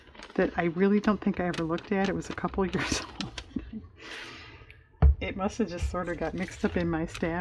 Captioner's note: laughs